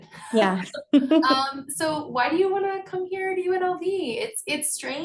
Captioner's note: chuckling